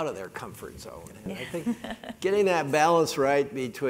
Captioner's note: laugh